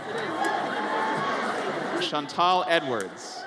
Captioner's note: audience cheers